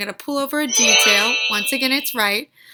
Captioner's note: chiming